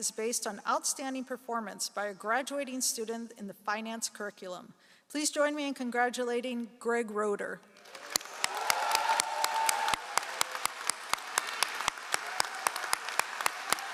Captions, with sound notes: is based on outstanding performance by a graduating student in the finance curriculum. Please join me in congratulating Craig Rotor. (all applauding)